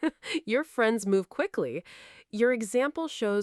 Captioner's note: chuckles